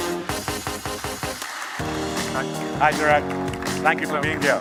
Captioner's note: applause